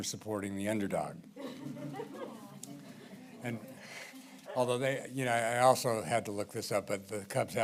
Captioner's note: laughter